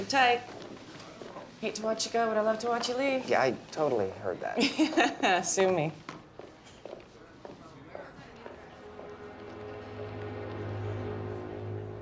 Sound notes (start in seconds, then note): 4.6 chuckling; 8.8 dramatic music